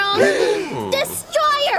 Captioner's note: group gasps